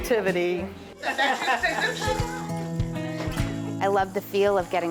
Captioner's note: group laughing